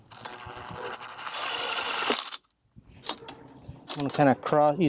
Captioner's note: power tool revving